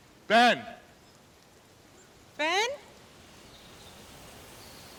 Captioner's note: none